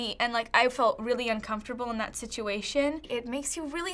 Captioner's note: none